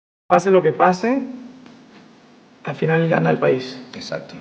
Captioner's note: speaking Spanish